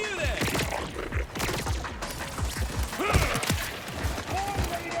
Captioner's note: guns firing